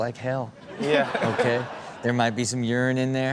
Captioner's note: all laugh